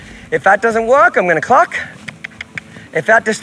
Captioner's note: mouth clicking